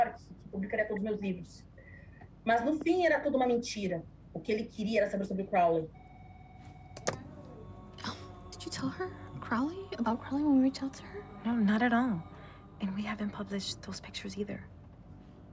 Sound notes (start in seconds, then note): none